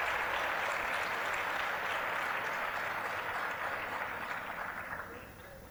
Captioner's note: applause, cheering; applause